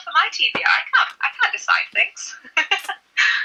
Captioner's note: laughs